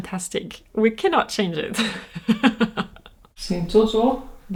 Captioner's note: laughs